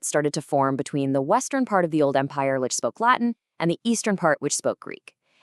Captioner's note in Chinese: 讲拉丁语